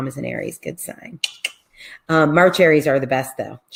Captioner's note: tongue clicks